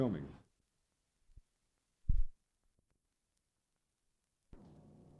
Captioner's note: silence